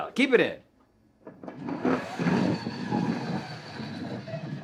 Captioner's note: puck sliding